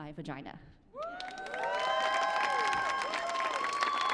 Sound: cheering

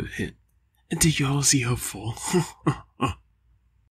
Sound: laughs

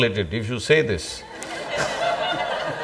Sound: laughter

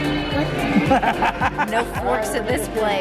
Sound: laughing

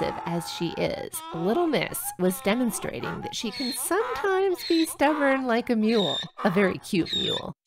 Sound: donkey braying

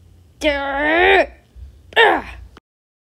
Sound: grunts

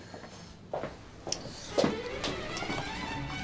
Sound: shoes knocking; whimsical music

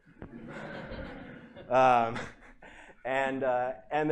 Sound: laughter

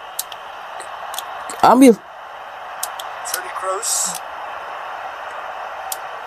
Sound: applause

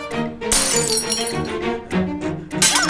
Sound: glass shattering; glass shattering

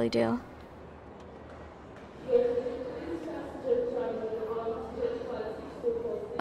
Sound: sound: Airport announcement of flight departure

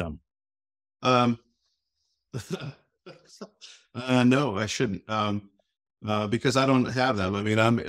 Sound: chuckling

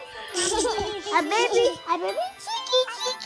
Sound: giggles

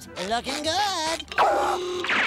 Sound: gasping

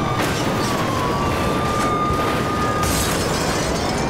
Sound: sirens; crashing

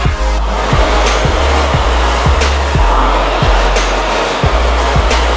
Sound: equipment whirring

